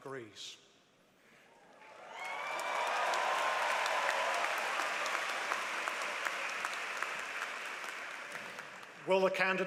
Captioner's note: applause